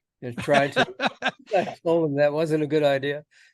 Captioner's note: laughs